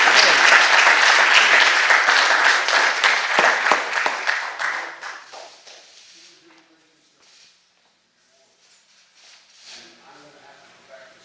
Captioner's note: applause